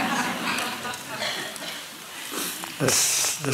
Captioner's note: laughter